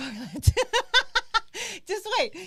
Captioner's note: laughs